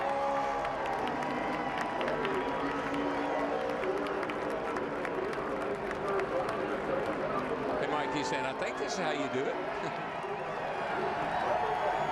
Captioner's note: cheers and applause